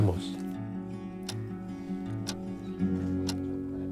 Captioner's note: clock tick tock